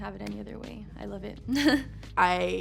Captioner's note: laughs